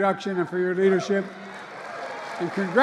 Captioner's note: applause